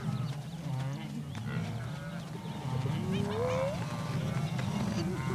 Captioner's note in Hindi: जानवरों की आवाज़ें